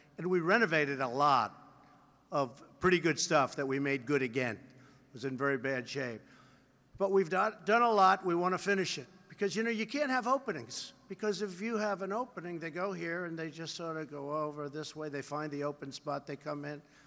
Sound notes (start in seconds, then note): none